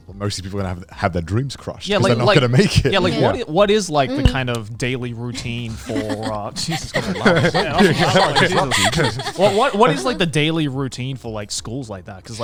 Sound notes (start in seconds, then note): 4.0 mug clinking; 7.2 everyone laughing